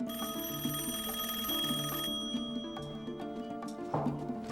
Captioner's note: rings